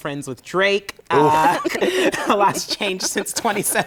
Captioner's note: laughter